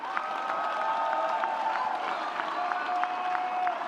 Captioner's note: audience cheers